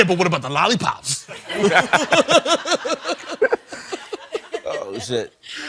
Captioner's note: laughing